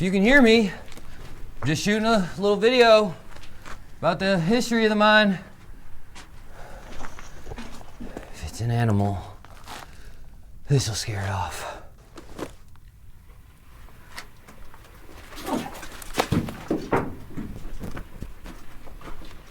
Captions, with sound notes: If you can hear me just shooting a little video about the history of the mine. If it's an animal, this'll scare it off. (stone clattering) (stone swooshes and clacks)